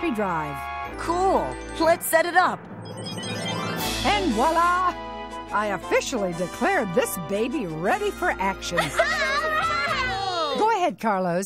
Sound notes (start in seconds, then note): 9.0 all cheering